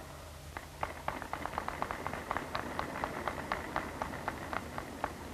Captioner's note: applause